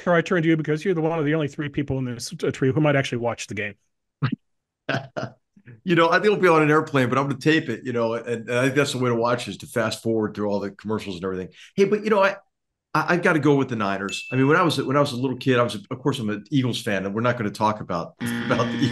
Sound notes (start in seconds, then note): 4.8 laugh